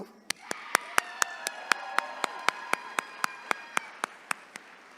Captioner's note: attendees cheering